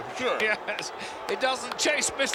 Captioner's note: chuckles